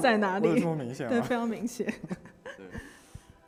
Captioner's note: laughs